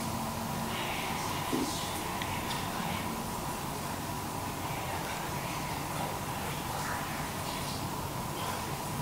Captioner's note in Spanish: SUSURROS - Audio aumentado